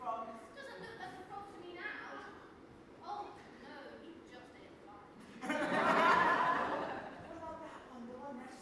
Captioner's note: audience laughs